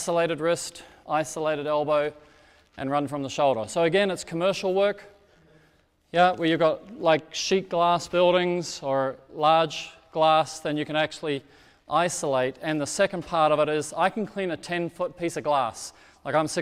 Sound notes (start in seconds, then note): none